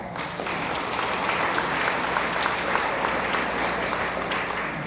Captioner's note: attendees applaud